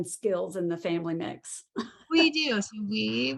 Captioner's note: chuckles